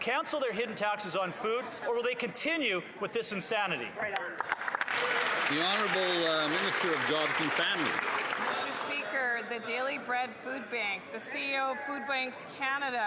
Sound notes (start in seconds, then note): 10.2 some Applause